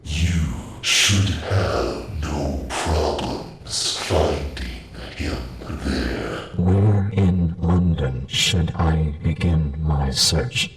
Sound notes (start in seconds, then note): none